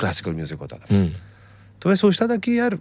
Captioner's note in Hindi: गला साफ़ करने की आवाज़